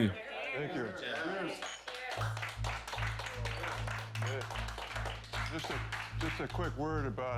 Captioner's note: guests applauding